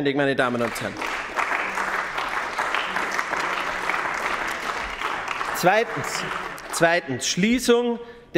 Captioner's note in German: Beifall bei den GRÜNEN